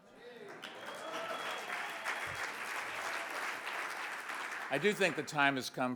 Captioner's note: audience applauds